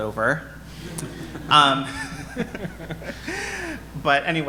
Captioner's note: audience laughing